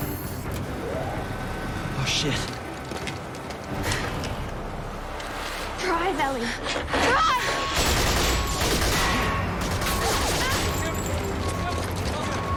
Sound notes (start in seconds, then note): 9.6 all fire guns, bullets ricochet; 10.9 soldiers shout; 10.9 truck beeps